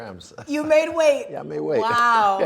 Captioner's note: laughing